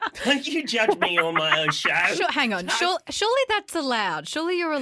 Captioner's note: laughter